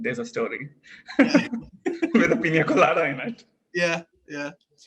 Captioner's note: laugh